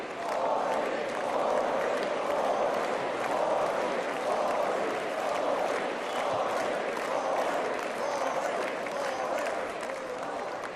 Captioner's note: applause